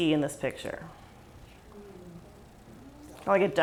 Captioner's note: murmurs from crowd